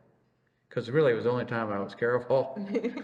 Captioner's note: laughs